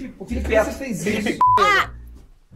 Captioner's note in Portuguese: som de bipe